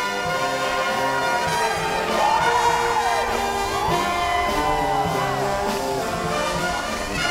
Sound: applause

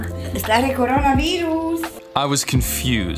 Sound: speaking Romanian

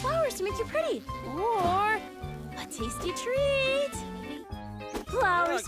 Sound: bees buzzing

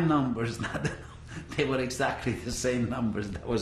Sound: laughs

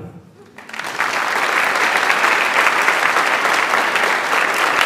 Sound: audience applauds

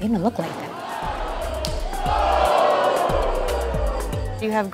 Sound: crowd boos in shock

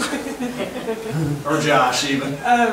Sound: group laughs

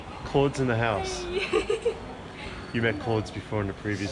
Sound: laughing

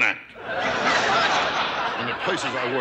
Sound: audience laughter

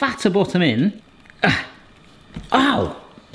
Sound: grunting

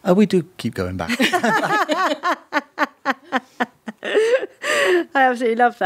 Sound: all laughing

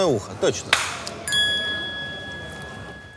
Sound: Dud' claps, followed by a DING!

